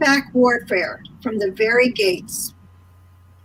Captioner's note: murmuring